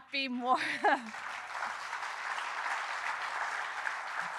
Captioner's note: audience applauding